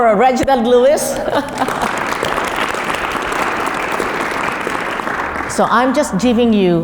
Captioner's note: laugh; applause